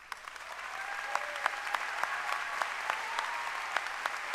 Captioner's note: applause